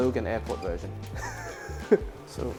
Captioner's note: laughs